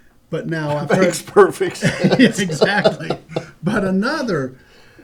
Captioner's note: laughter